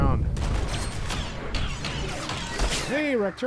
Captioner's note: gunshots